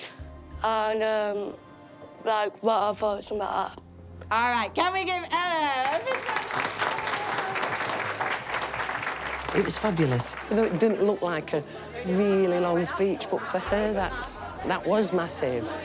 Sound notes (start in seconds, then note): 5.7 claps